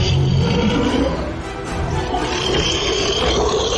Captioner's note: monster Roar; intense Action Music